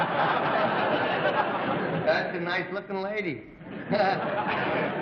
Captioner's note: laughter